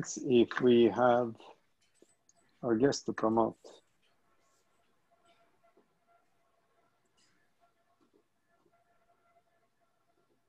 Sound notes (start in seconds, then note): none